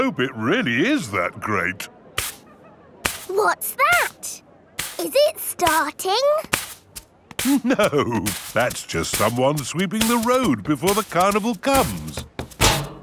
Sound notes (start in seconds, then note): 3.0 brushing